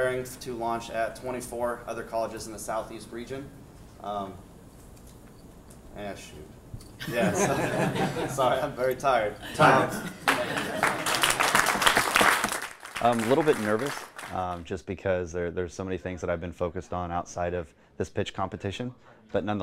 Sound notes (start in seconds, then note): 7.0 laughter; 10.2 applause